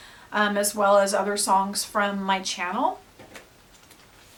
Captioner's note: notes, papers rustling